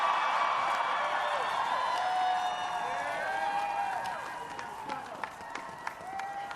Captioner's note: applause